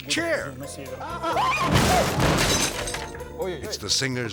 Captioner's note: interviewers exclaiming; bookcase thuds